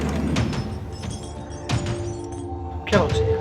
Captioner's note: bullets clinking